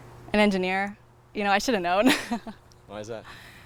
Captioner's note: laughs